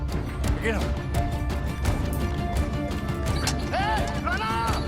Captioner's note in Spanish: Gritos